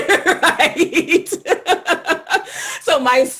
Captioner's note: laughter